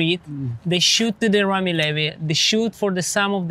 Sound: speaking in foreign language

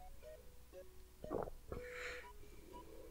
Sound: gulp

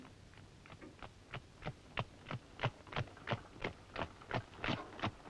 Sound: hooves clopping

